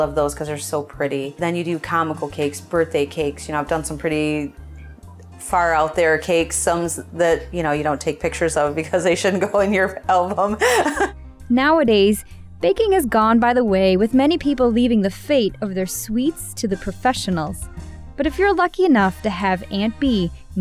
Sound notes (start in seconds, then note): 10.4 laughs